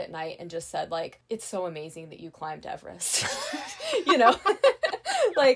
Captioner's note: laughing